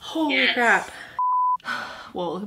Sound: beep

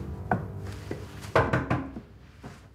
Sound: knock on door

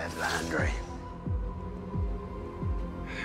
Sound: sword unshensheathin; suspensefnseful musi

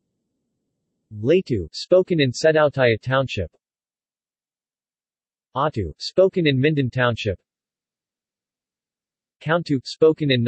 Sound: spoken in Mindon Township; spoken in Ngaphe, Minhla, Minbu

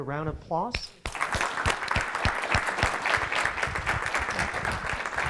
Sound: audience applauding

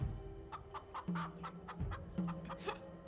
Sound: soft clucking

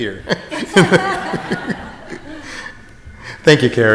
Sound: group chuckles

